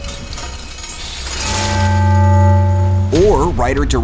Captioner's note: clang